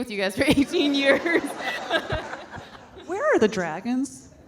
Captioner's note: audience laughing